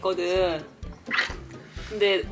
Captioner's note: achoo